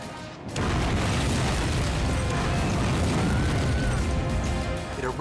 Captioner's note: explosion booming